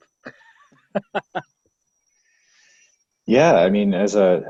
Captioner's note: laughs